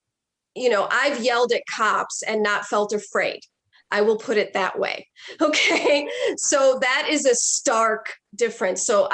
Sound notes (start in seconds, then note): 5.4 chuckles